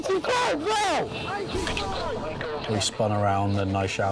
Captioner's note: radio chattering